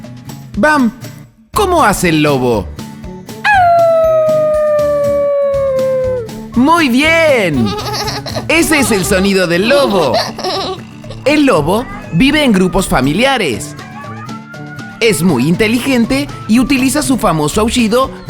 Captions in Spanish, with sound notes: ¿Bam como hace el lobo? (Sonido de Lobo) ¡Auuu! ¡Muy bien! (Risas) Ese es el sonido del lobo El lobo vive en grupos familiares Es muy inteligente y utiliza su famoso aullido